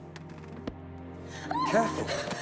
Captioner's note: shrieks